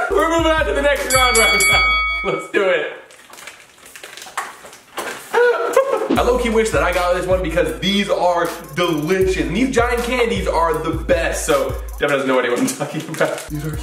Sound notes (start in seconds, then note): 1.0 bell dings